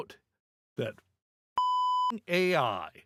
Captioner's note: beep